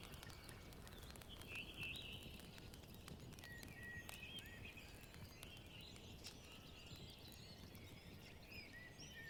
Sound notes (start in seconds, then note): 2.1 birds chirping